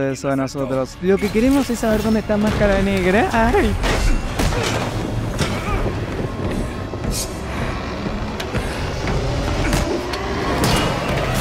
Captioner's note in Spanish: grito